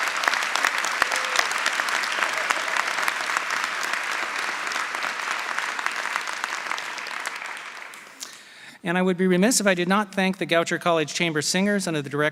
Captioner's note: applause